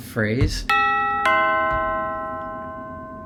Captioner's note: doorbell chime